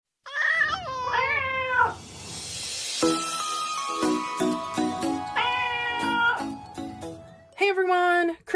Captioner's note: meowing Cats